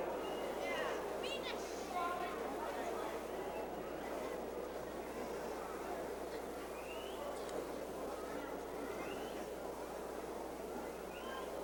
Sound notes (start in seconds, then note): 3.0 crowd chattering